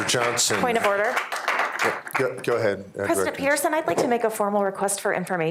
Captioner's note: applause